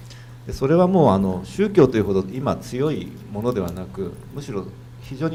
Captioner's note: speaking foreign language